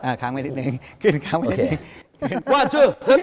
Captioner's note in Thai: เสียงหัวเราะ